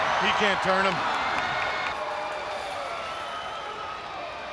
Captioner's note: crowd cheering